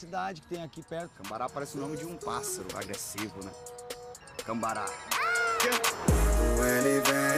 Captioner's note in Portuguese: grasna